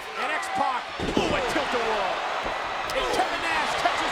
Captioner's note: X-Pac thudding